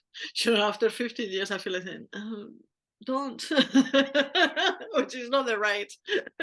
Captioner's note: laugh